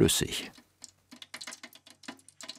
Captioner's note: crackling sizzling